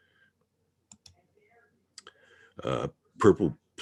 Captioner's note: mouse clicking